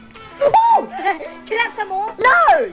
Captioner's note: person smacking lips